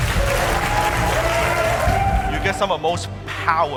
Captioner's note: audience applauding